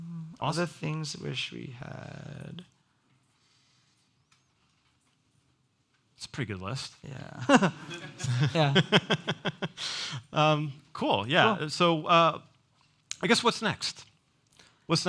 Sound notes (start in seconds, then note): 7.4 both laugh